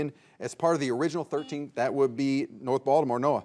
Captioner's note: buzzer beeps